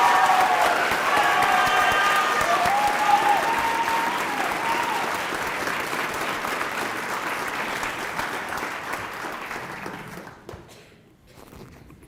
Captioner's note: cheering and applause